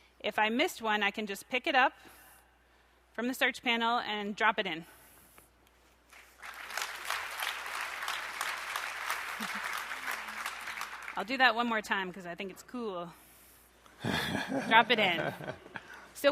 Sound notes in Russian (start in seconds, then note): 6.1 аплодисменты